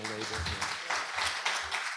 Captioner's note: applause